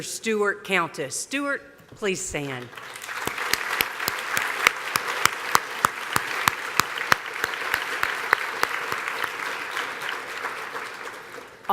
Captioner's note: applause